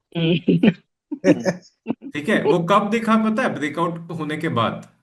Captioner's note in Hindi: हंसी